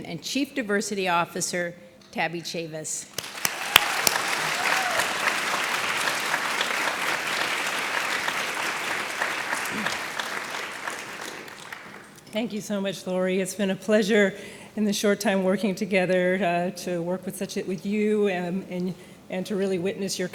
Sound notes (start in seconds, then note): 3.1 audience appluading